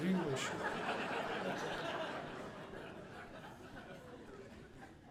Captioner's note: audience laughing